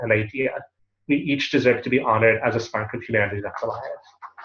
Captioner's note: Hebrew